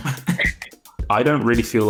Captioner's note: speaker laughs